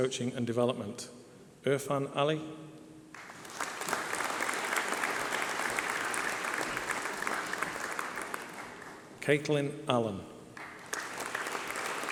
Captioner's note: applause